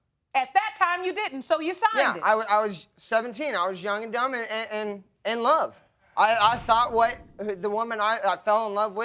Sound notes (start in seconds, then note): 2.0 stammering